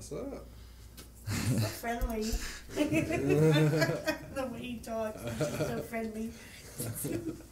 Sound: laughter

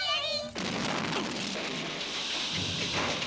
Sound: crash

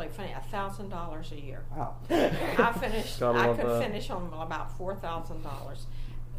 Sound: laughs

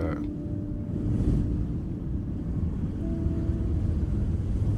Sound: wind howling

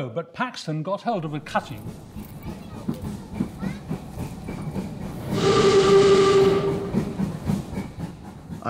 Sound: sound of a train passing in the background, and blasting it's horn

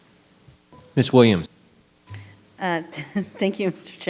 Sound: microphone beeping

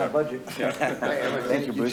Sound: laughter

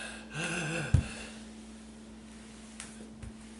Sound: worse and worse rattling breath

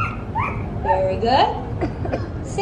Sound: barking

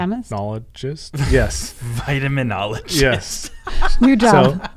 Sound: laughing

